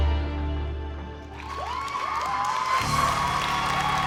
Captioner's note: crowd cheering, clapping